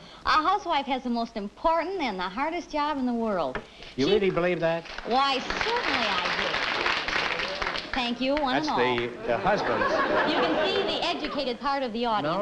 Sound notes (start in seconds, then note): 6.7 applause